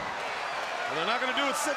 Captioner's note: crowd cheering